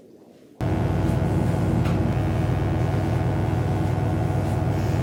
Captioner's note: electric buzzing